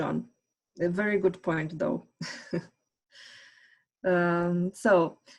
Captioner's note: giggles